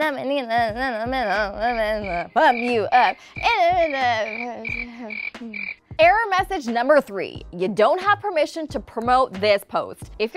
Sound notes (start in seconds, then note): 0.2 sings gibberish; 1.8 frogs croak